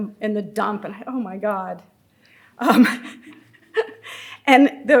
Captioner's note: laughs